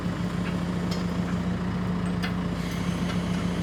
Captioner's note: engine rumbling